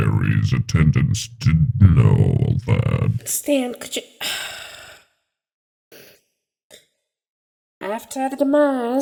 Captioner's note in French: soupir agacé